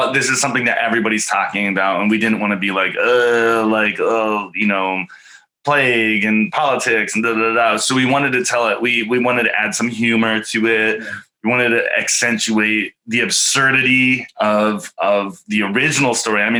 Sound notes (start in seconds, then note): 1.8 grunting